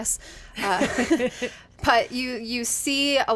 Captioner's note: group laughs